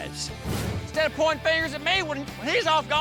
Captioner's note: angrily shouts